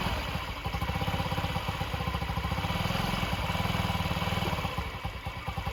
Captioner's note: engine running